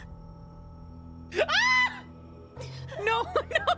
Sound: scream

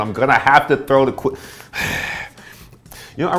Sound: sighs heavily

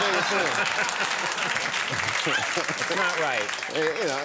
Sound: applause

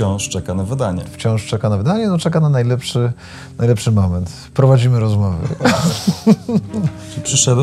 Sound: laughs

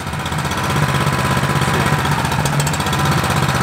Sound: engine rattle

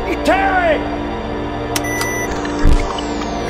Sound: button pings

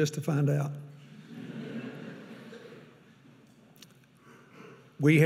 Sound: audience laughing

